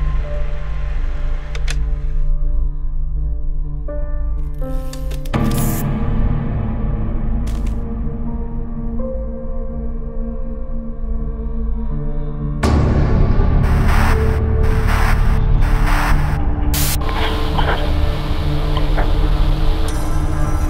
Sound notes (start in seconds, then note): 5.4 scratching; 13.6 static buzzing